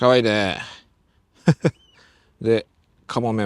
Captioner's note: laugh